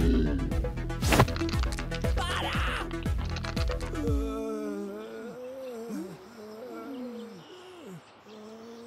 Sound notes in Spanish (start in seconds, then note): 2.9 Brazo crujiendo; 6.5 Hombres quejándose